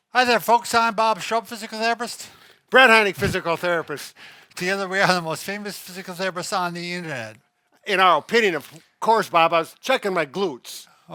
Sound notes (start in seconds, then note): 3.2 chuckles